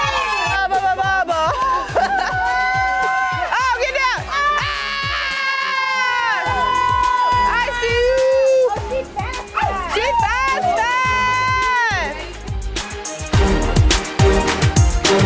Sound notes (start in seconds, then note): 0.0 cheering; 1.5 player laughing; 4.6 players scream; 12.4 upbeat music